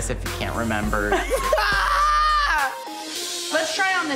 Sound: laughing

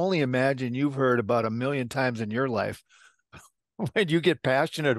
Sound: chuckle

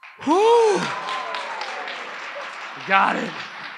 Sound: audience applauds

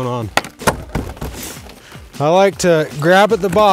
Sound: banging panel

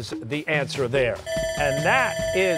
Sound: bell ringing

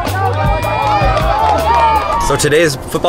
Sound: cheering

